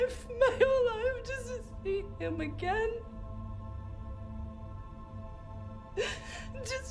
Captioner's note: sobs